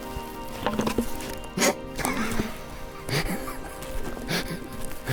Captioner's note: laughing